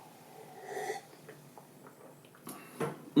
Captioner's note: sips tea